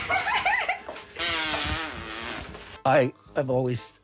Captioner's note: farting